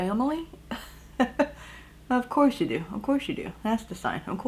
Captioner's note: chuckles